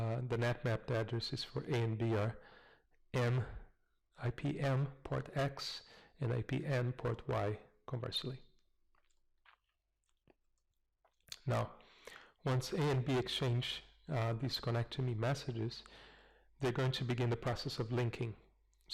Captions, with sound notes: the NAT-mapped addresses for A and B are M... IP M port X, and IP N port Y conversely. [pause] Now once A and B exchange these Connect-to-me messages, they're going to begin the process of linking.